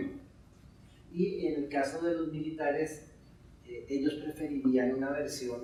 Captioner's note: speaking in Spanish